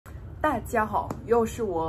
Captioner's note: Chinese